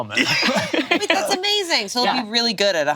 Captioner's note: laughs